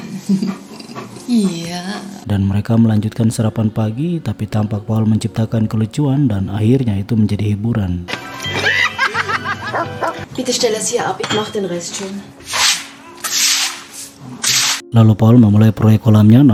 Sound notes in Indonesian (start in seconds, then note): 8.2 tertawa